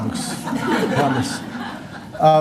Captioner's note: laughter